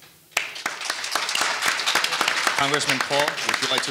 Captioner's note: audience applauding